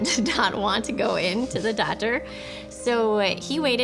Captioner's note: both chuckle